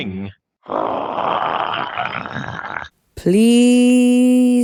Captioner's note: grooooowls